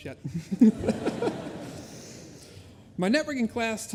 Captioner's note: laughter